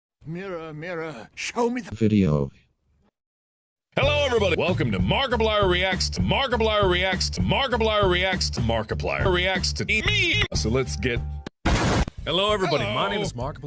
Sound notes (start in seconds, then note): 10.7 laptop falls on the edge of the screen